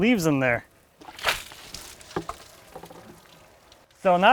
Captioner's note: water sloshing